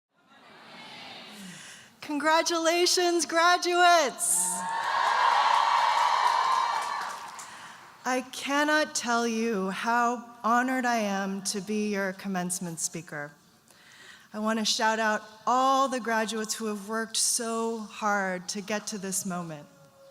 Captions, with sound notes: - Congratulations graduates. (audience cheering and applauding) I cannot tell you how honored I am to be your commencement speaker. I want to shout out all the graduates who have worked so hard to get to this moment,